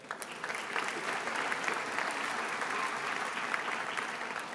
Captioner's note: attendees applauding